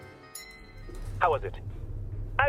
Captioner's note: elevator dings